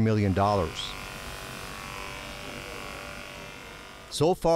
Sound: pressure washer rumbling

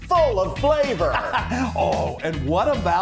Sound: laughs

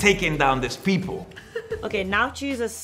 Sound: laughs

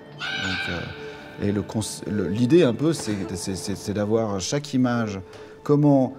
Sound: in french

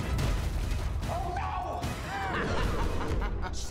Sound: laughs

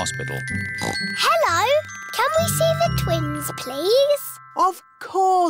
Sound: oinks

